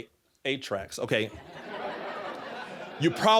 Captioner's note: audience laughing